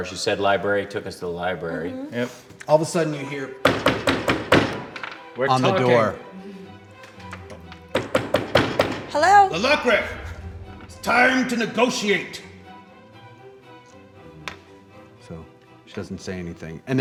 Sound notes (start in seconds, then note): 3.7 loud wooden banging; 7.9 loud wooden banging; 12.9 suspenseful orchestral music